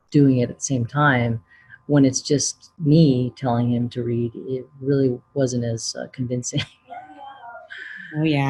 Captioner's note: laughs